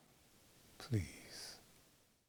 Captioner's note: sigh